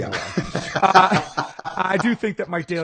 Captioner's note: laughing